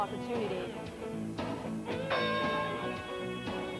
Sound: bell rings

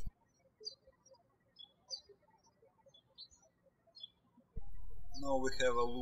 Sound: birds chirping

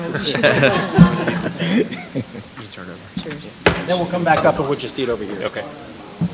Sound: laughter

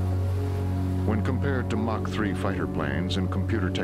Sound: voiceover

